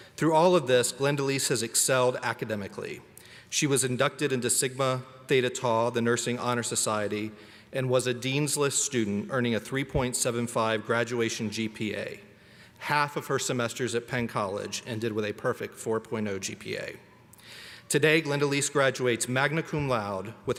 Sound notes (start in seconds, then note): none